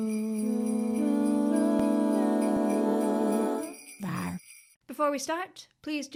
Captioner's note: roar, roar, roar, roar, roar